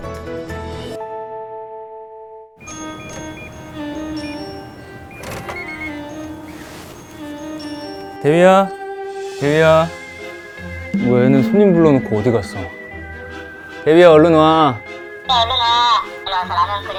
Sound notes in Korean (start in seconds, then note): 5.2 띡 띠띡띡